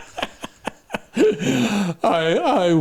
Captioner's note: laughing